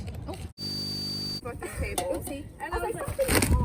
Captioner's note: high-pitched buzzing